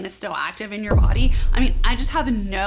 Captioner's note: cannon booming